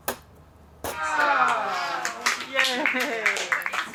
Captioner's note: students cheering